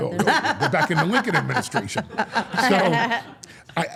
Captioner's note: Steph and Elyse laugh